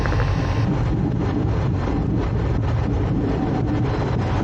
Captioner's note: plane landing